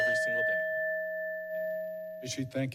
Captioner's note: bell rings